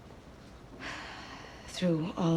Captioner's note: sighs